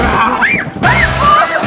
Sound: screams

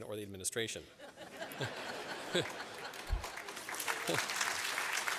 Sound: laughter and applause

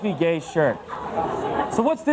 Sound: audience laughs

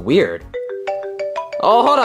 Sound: phone ringing

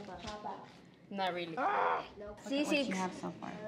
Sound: boy groans

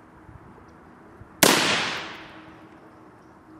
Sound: rifle fires

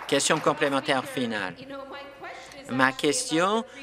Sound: some Applause

